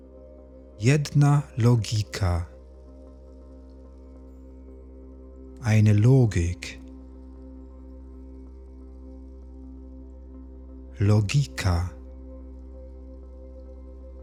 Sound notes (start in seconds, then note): 7.2 german